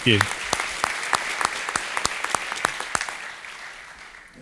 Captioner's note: applause